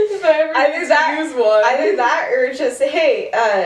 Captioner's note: laughter